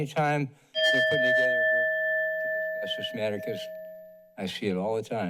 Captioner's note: bell rings